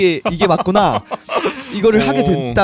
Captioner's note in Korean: 웃음